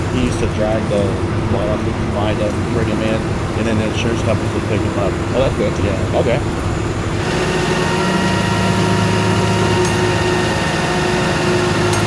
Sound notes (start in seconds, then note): 7.4 truck humming